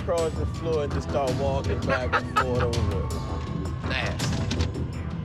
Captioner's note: laughs